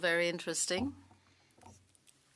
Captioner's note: speaking French